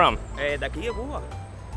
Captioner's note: speaking foreign language